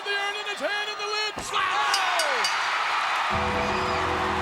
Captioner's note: bell ringing